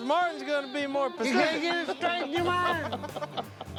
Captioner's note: laughter